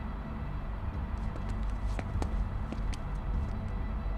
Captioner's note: footsteps on gravel